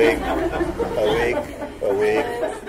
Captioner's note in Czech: Smích